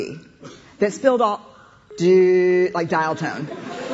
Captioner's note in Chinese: 電話斷線聲; 笑聲